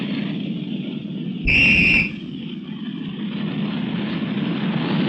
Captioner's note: whistle blowing